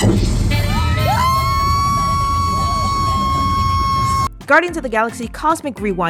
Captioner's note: explosion; screaming